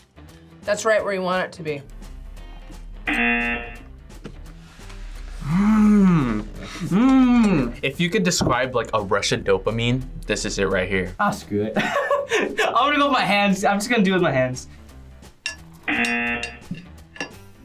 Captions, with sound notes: That's right where you want it to be. (buzzer rings) - Hmm, mmm! If you could describe like a rush of dopamine, this is it right here. - Aw, screw it. (laughs) I'm gonna go with my hands, I'm just gonna do it with my hands. (buzzer rings)